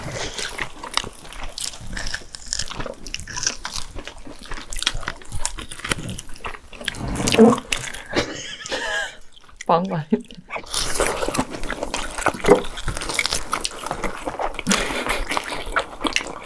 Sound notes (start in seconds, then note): 6.8 bong